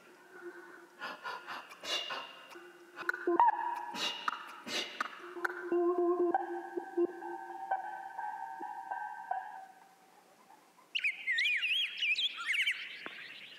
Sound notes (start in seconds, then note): 5.2 bird singing